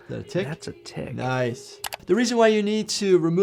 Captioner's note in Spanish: clic